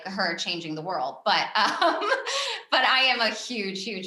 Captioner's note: chuckles